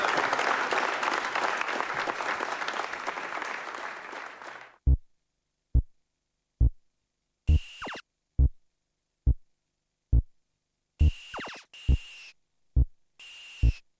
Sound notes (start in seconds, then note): 4.8 ominous building beep; 7.5 Space Invaders sounds